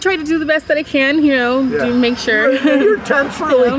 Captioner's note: laughing